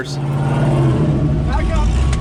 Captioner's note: engine revving